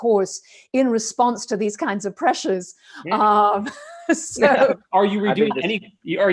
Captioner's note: chuckles